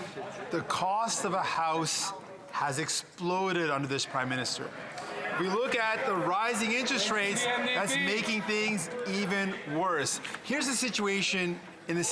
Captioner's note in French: voix de l'interprète